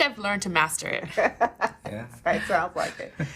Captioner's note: laughing